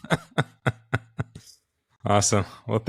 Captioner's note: laugh